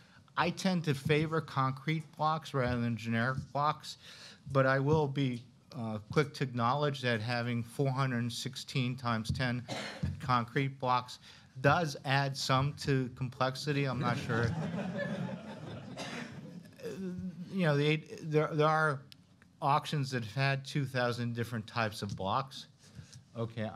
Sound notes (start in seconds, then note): 13.9 laughter